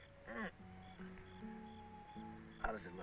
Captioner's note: groaning